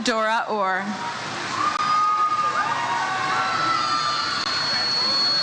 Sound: audience cheers

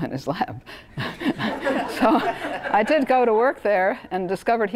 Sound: laugh

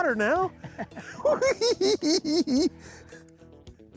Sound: giggling

